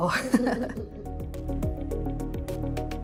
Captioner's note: chuckling; bouncy electronic music